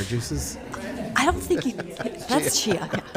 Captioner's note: audience laughing